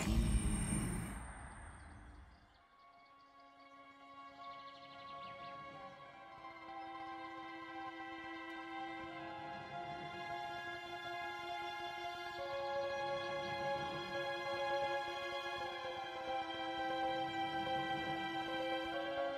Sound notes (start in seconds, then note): 4.2 birds twittering; 4.2 orchestral music